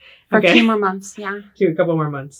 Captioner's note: laughs